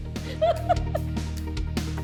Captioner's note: laughter